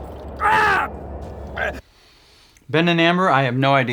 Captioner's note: shouts